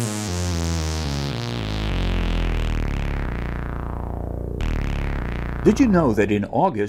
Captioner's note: sound Effects